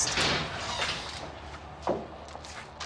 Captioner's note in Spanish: Portazo